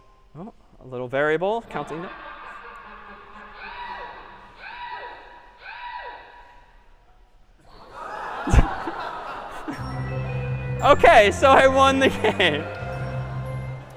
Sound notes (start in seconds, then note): 3.5 screaming; 7.8 laughter